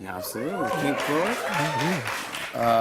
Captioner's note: cheers and applause